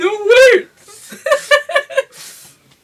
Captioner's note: happy goblin laughing